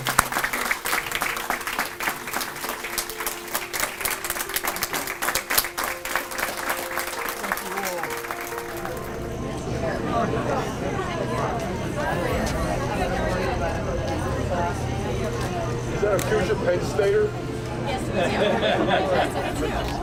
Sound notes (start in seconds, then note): 0.3 audience applauding; 3.4 piano music; 9.5 people chattering